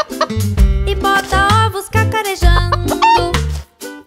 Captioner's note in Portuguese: som de galinhazinha; som de galinhazinha